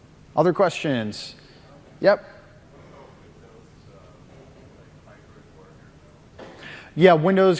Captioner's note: off mic